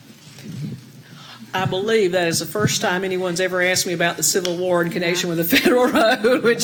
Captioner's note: laugh